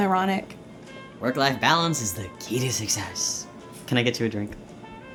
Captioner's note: sarcastic